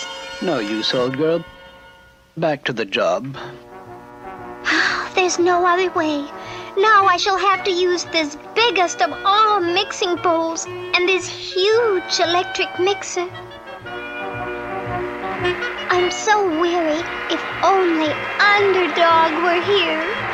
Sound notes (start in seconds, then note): 4.6 sighs; 13.4 electric Mixer turns on